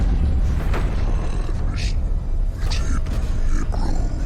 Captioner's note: suspenseful; deep, growling voice continues